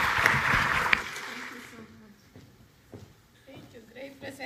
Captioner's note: applause